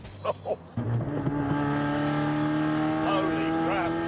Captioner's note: engine roars